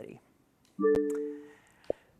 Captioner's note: soft beep